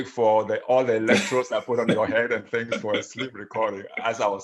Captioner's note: laughs